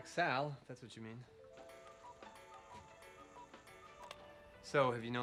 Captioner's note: clock cuckoos